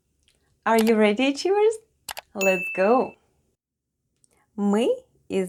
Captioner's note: click and ding sounds